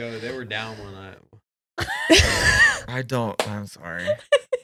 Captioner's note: laughing